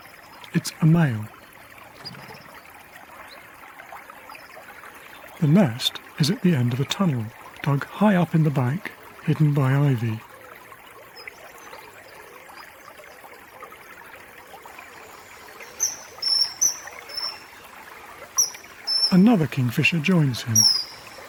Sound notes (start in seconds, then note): 15.4 kingfisher chirping; 20.5 chirping continues